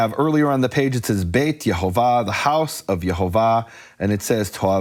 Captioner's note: speaking foreign language